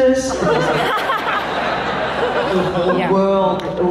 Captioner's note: laughs